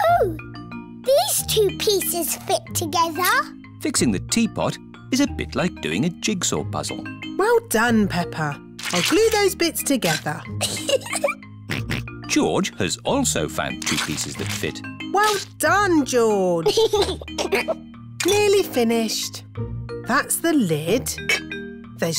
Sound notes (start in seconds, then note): 10.6 giggles; 11.7 snorts; 16.6 giggles